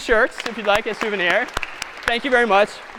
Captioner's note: applause